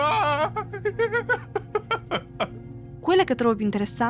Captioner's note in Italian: risate